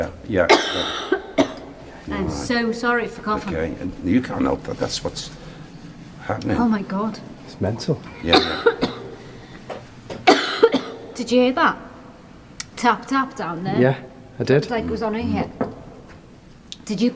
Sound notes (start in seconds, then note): 0.4 coughing; 10.1 coughing